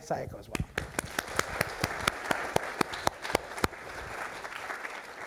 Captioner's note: applause